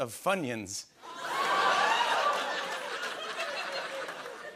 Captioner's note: cheers and laughter